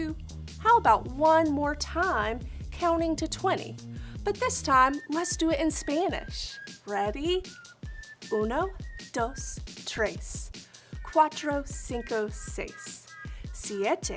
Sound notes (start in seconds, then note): 7.5 speaking in Spanish